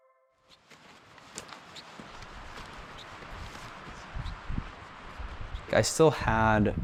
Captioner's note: sound of hiking